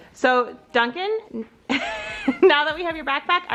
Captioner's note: laughing